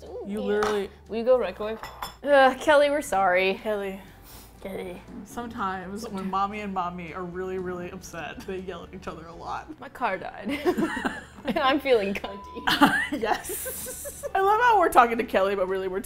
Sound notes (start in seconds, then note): 10.5 both laugh